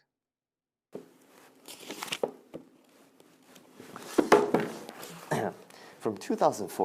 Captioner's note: page flipping